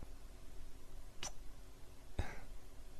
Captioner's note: kiss